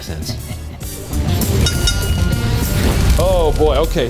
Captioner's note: game show music continues; bell dinging; flames roaring